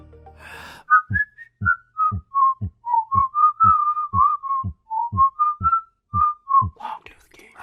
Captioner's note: whistling with animated logo